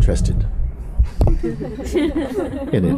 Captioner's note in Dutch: gelach